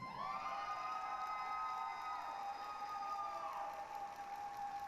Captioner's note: applause, cheering